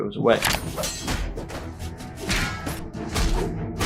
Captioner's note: blows landing